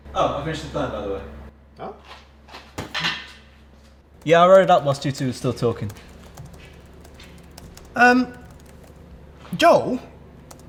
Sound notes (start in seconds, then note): 2.4 sticky footsteps; 2.9 pool cue hitting the ground; 6.7 sticky footsteps